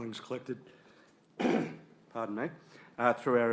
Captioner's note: clears throat